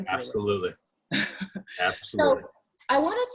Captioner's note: laughs